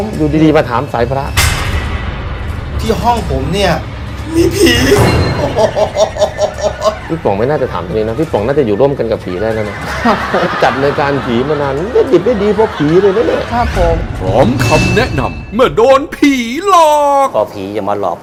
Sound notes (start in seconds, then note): 5.5 scary sound; 9.6 laughing sound